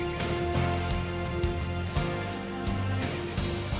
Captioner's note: birds chirp